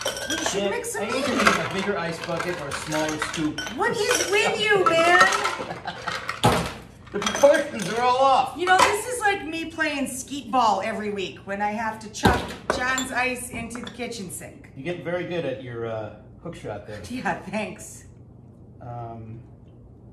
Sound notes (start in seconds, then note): 5.4 laughs